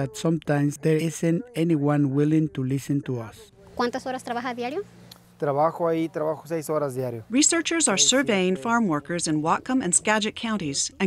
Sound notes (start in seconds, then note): 4.8 researcher interviews man, speaking in Spanish